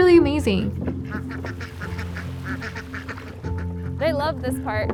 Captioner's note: ducks quacking